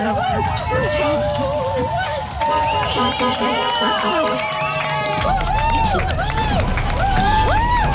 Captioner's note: cheering